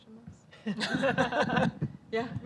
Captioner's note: panel laughing